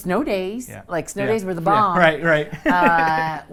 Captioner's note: laughs